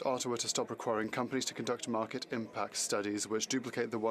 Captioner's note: speaking French